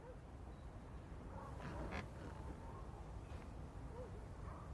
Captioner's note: dog barking